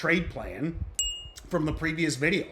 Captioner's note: bell dings